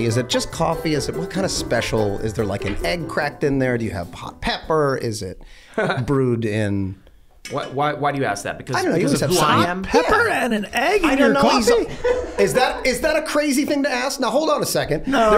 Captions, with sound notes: Is it just coffee? What kind of special? Is there like an egg cracked in there? Do you have hot pepper, is it brewed in? - Why do you ask that? Because of who I am? - I don't know. - Hot pepper and an egg in your coffee? (laughing) - Is that a crazy thing to ask? Now hold on a second.